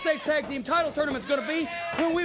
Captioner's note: crowd cheering